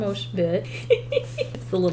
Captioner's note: laughs